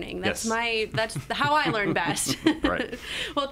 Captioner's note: laugh